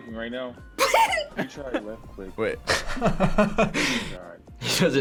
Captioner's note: laughs